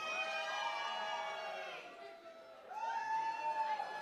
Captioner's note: cheering, applause